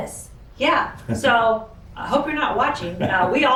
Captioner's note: chuckles